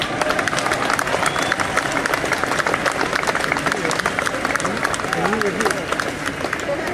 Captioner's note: applause